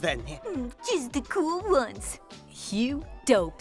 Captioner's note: mocking